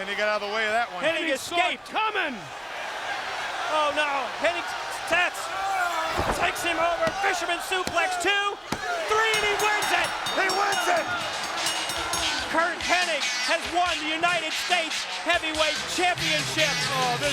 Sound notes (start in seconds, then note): 9.0 bell rings